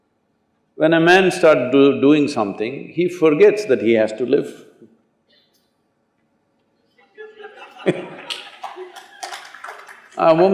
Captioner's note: laughter